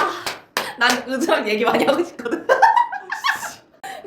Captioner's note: laughs